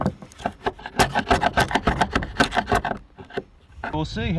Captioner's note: hammer banging; chisel scraping